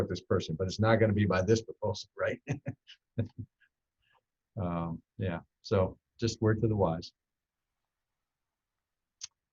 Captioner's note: laughs